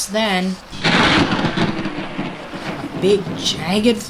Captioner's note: thunder crack